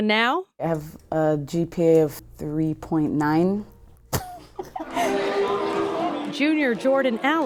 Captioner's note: laughs